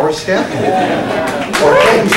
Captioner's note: cheers